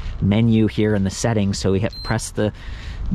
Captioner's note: bike beeps